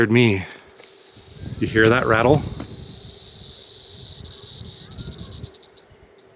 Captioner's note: snake rattles